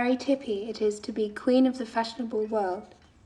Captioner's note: none